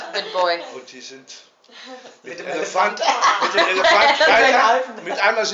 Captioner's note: everyone laughing